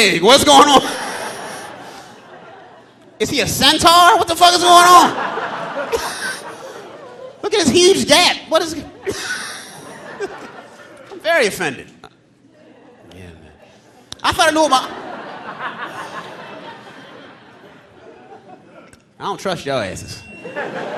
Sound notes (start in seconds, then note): 4.7 audience laughing; 8.7 all laughing; 14.4 audience laughing; 20.4 audience laughing